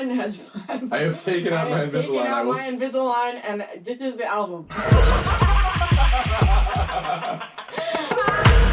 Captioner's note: laughter